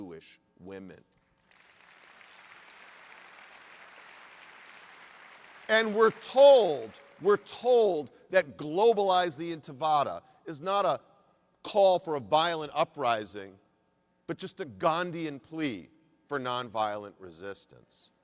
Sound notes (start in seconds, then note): 4.8 applause